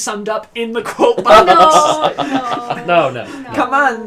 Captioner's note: laughs